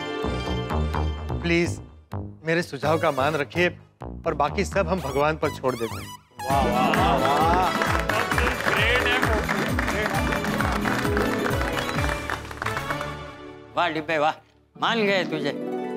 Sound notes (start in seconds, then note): 10.5 applauding